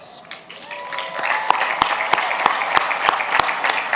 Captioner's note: applauding